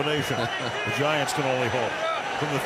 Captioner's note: chuckles